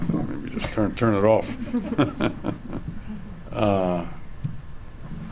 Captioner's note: audience laughs